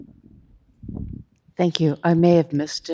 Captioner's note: colleague speaking faintly